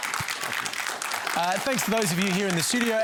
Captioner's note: applause